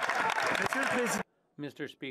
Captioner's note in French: applaudissements